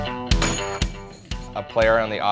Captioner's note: upbeat music; bell rings